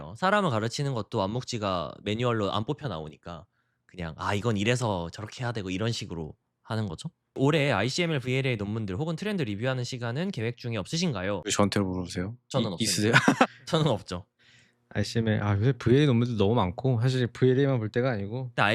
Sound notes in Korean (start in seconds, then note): 12.9 웃음